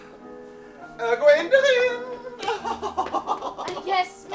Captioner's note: giggles